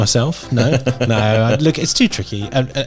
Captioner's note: laughing